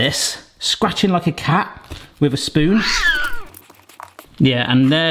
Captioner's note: cat meows